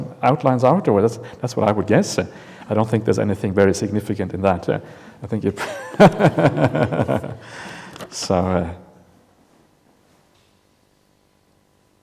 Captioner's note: chuckles